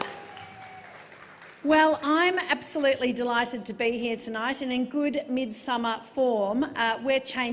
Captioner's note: applause